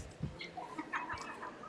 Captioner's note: laughter